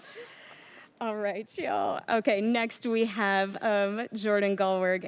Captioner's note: laughter